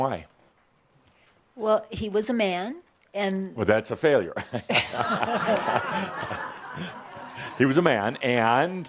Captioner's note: laughter